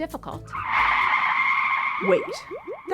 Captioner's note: screeching noise